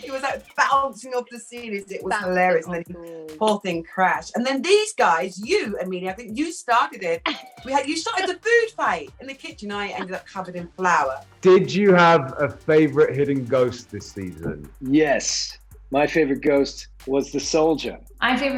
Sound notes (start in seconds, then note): 7.2 Amelia chuckles